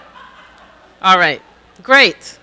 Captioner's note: audience laughing, chattering